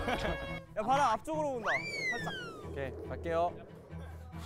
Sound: then, the wind blows again

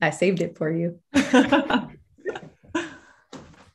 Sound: laughs

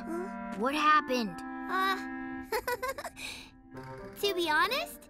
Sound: chuckles

